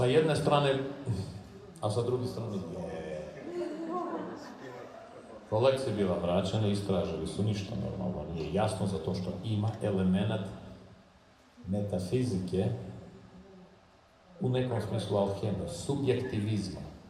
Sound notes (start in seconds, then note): 3.3 audience laughing